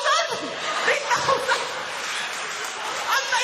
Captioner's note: laughter